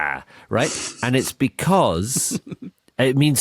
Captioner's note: snicker